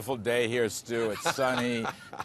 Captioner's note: laughter